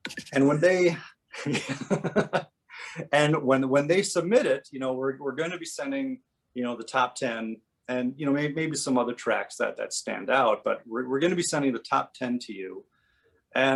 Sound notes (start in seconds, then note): 1.3 laughing